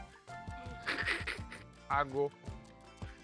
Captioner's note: laughs